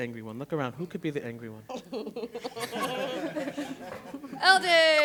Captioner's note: laughter